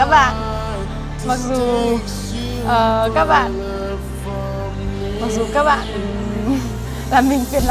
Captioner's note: laughs